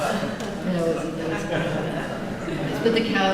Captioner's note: laughter